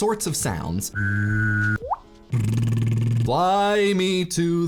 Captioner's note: whistling